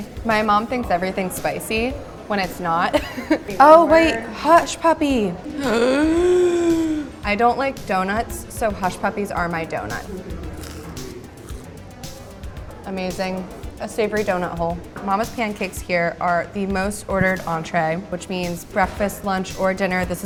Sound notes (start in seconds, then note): 2.9 laughs; 5.4 gasps